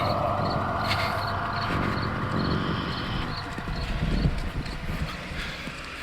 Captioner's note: crickets chirping; suspenseful music continues